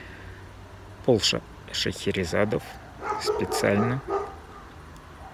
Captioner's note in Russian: лай собаки